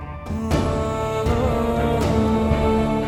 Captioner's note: emotional vocalising